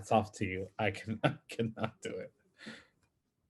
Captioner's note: laughs